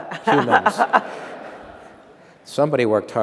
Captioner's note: laughter